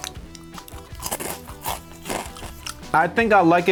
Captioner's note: chews